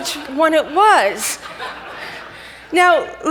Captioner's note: audience laughs